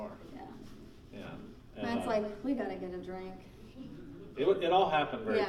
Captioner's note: laughing